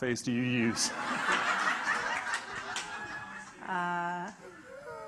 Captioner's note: audience laughing